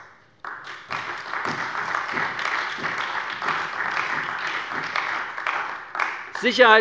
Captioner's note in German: Beifall bei der CDU